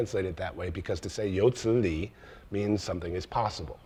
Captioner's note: speaks in foreign language